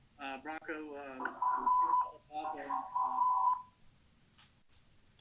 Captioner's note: audio feedback